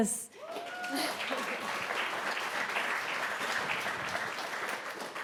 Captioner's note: audience applauding and whooping